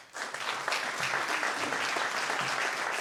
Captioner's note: applause